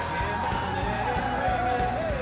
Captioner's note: tires screeching